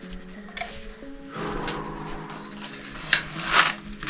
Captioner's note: metallic thumping; scuffling and banging; wood cracking